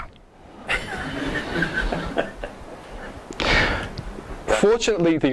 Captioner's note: audience laughs